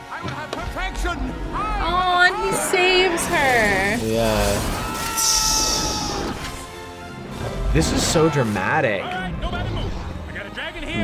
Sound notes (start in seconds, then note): 5.7 yelling